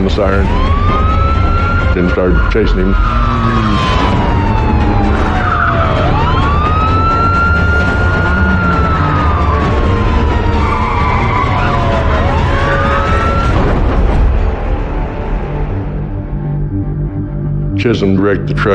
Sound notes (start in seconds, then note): 3.6 tires s screechihing